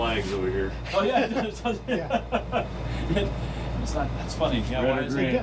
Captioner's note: man laughing